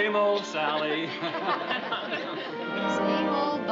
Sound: chuckles

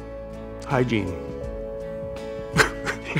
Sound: both laugh

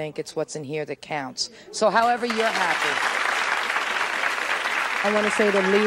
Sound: applause

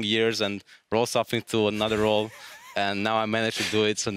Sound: wheezes

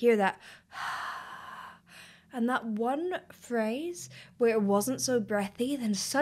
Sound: exhaling

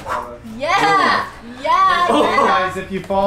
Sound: labored breathing

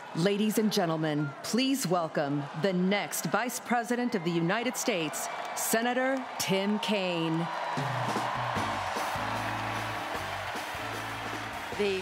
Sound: applause

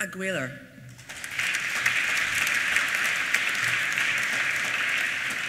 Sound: applause

